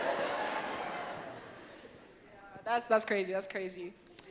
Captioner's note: audience laughs